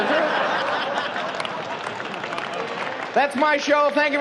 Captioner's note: laughing